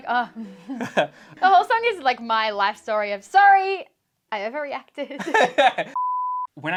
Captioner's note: laughs